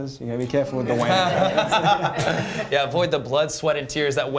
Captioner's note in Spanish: risas